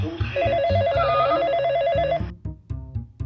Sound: phone rings

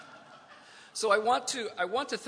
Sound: laughter

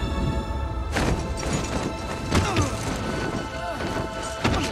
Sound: grunting

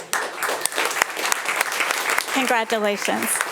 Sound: audience applauding

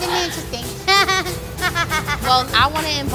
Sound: laughing

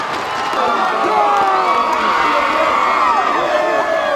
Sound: cheering; team shouting

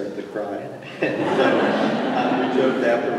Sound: laughter

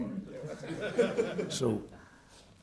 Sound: laughing

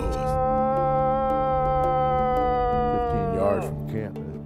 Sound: bellows

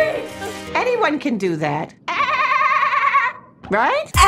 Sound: makes Dolphin Noise

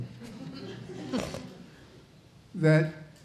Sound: audience chuckling

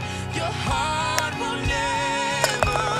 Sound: golfball wacked

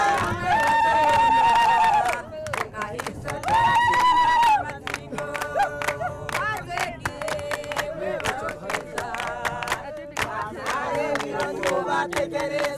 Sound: cheering, singing, clapping in celebration

